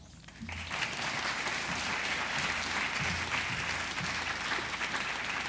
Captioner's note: audience applause